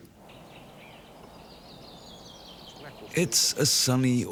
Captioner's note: birds chirping